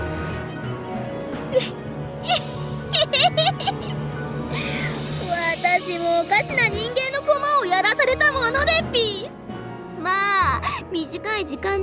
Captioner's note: giggle